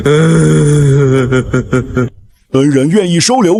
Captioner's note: chuckling